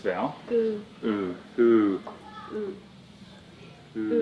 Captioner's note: foreign language